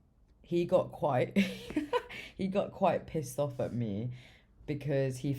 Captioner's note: laughs